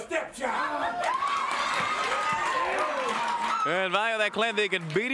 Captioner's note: crowd cheers